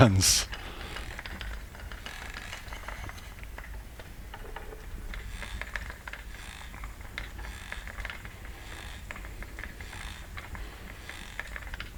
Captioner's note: breathing